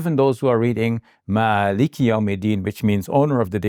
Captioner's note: speaking Arabic